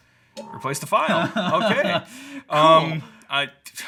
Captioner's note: laughing